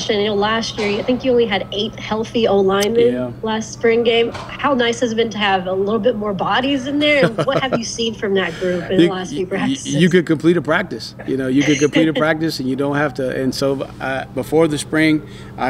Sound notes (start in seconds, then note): 6.9 laughs